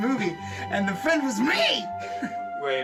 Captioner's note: chuckles